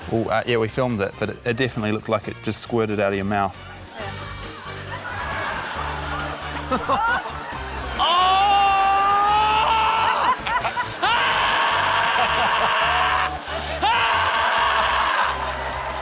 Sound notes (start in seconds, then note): 4.9 laughter; 11.0 roars